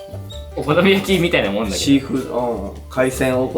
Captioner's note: laughs